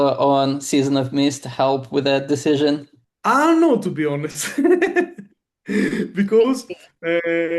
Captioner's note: laughs